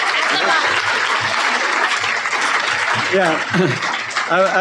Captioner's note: applause